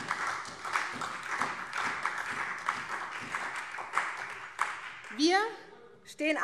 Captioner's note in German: Beifall SPD